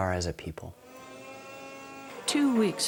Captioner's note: whirring